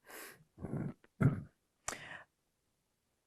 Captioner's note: clears throat